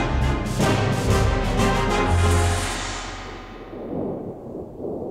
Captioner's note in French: Coups de tonnerre